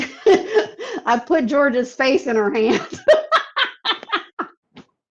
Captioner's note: laughs; laughs